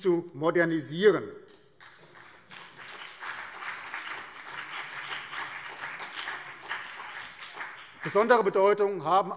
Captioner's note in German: Beifall BÜNDNIS 90/DIE GRÜNEN und vereinzelt CDU